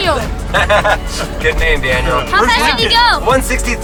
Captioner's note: laughs